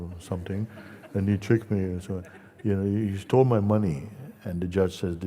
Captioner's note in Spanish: risas